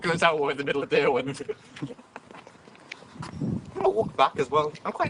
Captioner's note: laughter